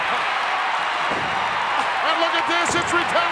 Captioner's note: applause